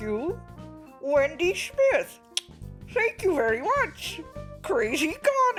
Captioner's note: click sound